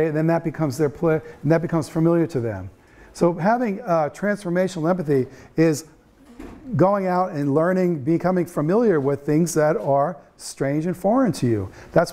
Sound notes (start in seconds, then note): none